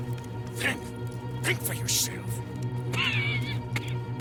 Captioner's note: coughs